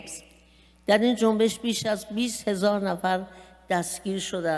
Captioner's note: speaking persian